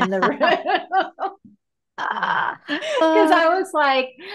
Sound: laughing

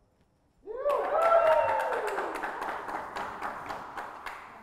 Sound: audience cheers

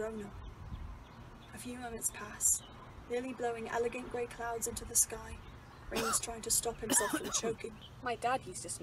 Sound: Remus coughs

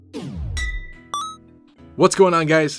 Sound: ding

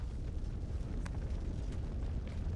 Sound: crackling

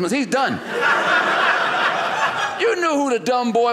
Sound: audience laughing

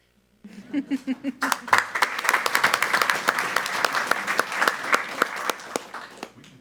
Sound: group laughs; audience applauds

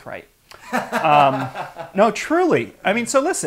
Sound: laughs

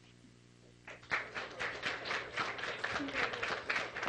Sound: clapping

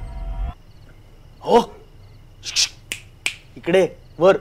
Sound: snaps

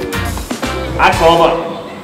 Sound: loud announcement

